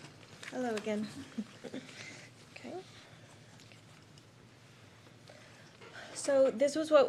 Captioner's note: clears throat